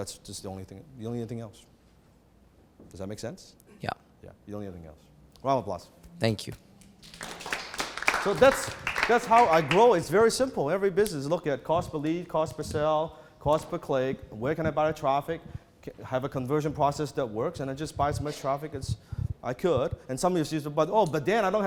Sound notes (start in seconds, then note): 6.8 clapping